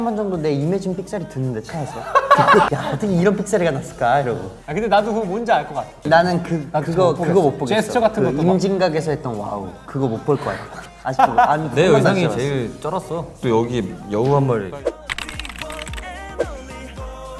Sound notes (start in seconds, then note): 1.6 laughing